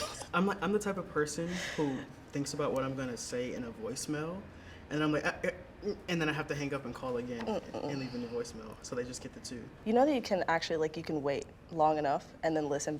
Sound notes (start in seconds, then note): 0.1 laughing; 5.3 stuttering